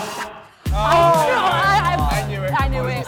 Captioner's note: group chattering